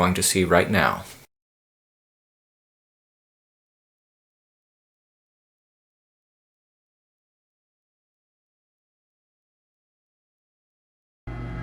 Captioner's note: machinery Noise